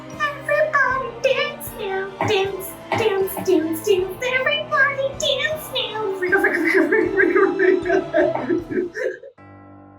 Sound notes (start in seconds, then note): 6.2 laugh; 6.2 vocal scratching